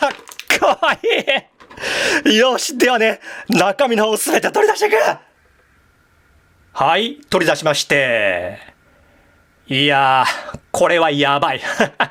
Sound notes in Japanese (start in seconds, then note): 0.5 笑い; 1.7 息をのむ音